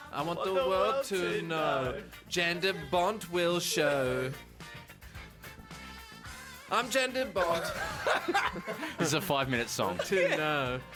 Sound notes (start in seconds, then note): 7.4 hearty chuckle